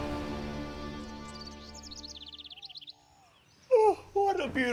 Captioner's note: birds chirping